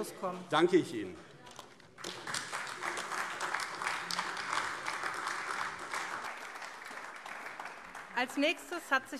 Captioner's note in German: Beifall AfD